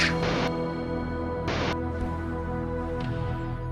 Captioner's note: digital static